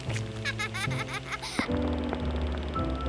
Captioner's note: laughter